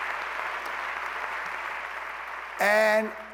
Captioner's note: applause